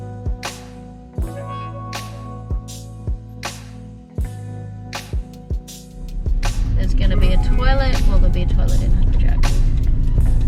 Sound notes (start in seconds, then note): 6.0 engine noise fades in